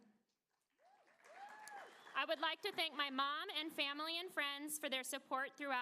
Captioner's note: applause